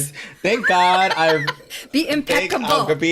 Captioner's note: laughs